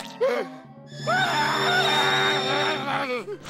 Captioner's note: yells